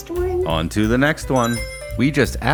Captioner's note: Sonic Ring Chime